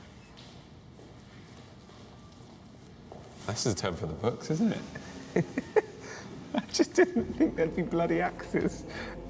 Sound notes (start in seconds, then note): 5.0 chuckles